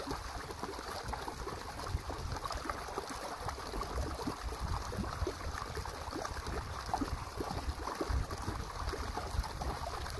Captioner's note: stream sound